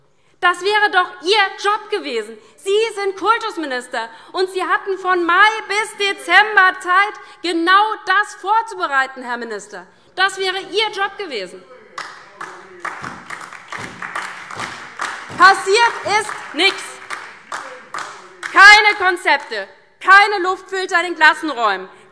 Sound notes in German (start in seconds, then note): 11.9 Beifall DIE LINKE und vereinzelt SPD